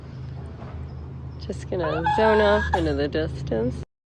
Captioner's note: squeals softly